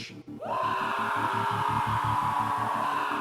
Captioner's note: scream